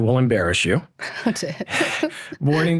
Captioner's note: laughs